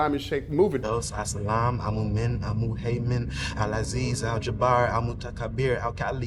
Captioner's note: person speaking foreign language